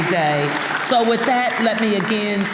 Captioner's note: audience applauding